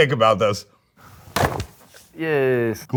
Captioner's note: box clanging